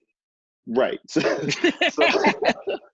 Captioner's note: laughing